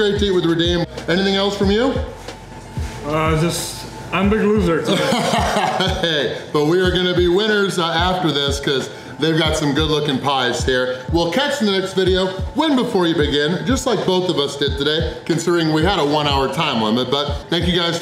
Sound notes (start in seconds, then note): 4.8 laughter